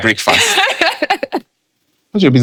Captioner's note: laughing